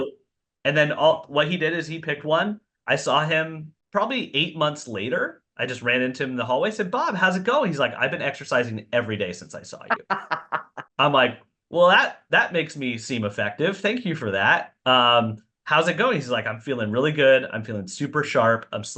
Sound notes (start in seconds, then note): 11.0 laughing